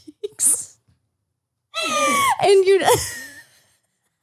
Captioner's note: laughs